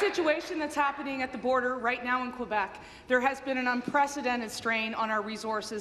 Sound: applause

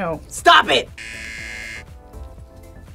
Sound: buzzer rings

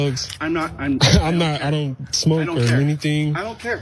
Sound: cough

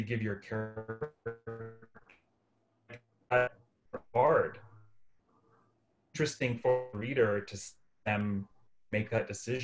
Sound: tech blip!

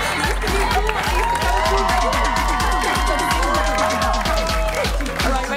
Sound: cheers and applause

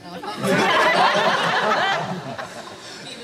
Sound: laughter

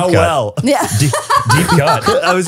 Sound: everyone laughs

